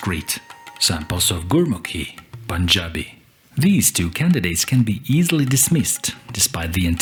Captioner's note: Punjabi language